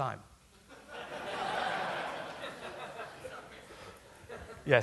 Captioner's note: laughter